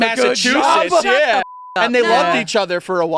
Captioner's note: beep